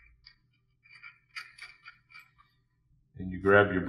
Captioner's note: metal scraping